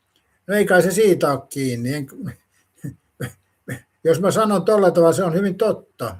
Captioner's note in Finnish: naurua